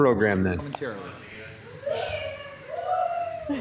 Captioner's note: speaks faintly; attendees cheering